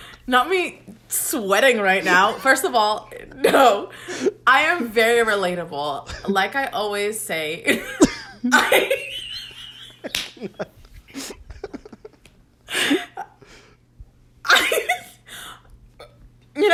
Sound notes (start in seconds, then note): 7.7 both laugh; 14.5 laughs